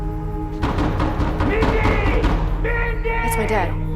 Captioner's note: knocking